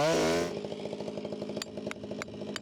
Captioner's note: none